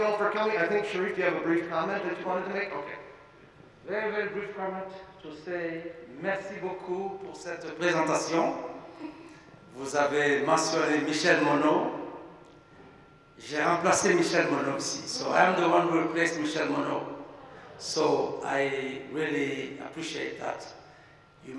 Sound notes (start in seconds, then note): 6.4 speaking in a French language; 16.7 speaking a foreign language